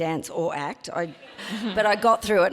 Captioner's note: audience laughs